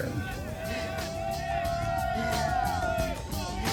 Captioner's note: cheers